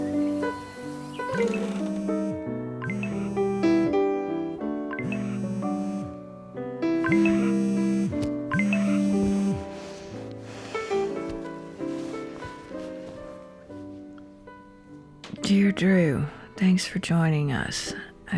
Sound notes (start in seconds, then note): 2.8 phone vibrating